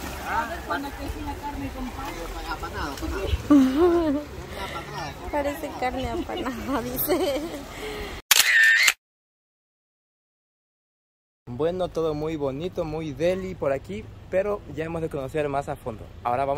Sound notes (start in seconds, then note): 7.7 laughs